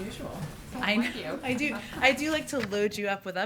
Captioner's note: laughs